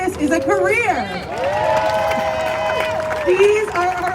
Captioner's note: crowd cheers